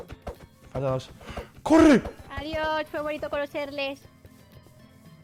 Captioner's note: gasp